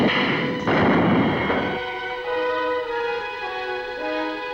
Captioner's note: guns fire